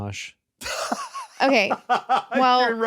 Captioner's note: laughs